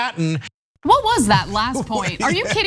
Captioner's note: laugh